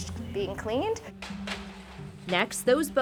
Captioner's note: sliding